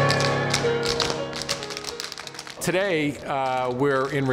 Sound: tapping

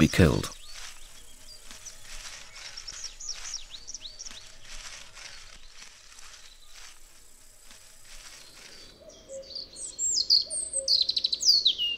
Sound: sounds of nature

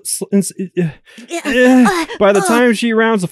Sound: making utterances

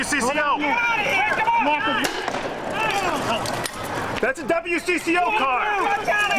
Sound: screaming

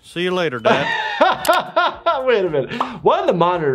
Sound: laughs

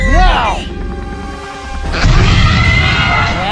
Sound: velociraptor sounds

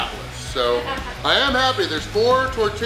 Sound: audience member laughs

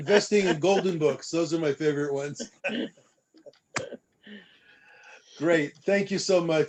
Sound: laughter

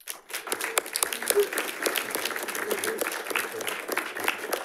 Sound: audience applauding

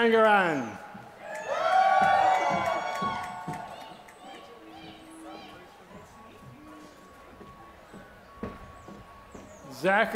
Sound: applause

